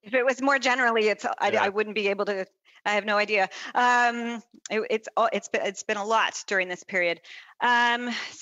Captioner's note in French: voix de l'interprète